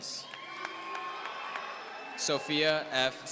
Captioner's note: audience cheering